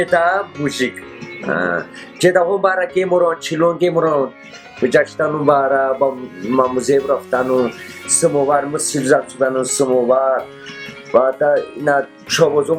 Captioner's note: speaking in Tat